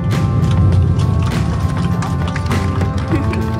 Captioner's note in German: Applaus